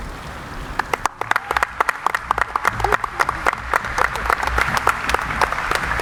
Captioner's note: audience applauding